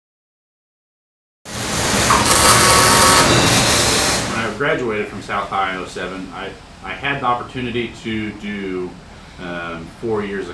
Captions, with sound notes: [Welding sounds] When I graduated from South High in ’07 I had an opportunity to do four years of college.